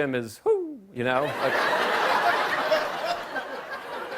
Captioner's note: laughter